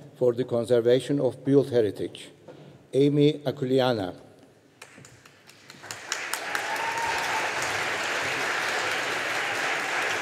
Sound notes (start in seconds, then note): 4.8 audience applauding